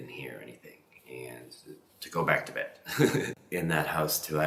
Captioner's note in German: lacht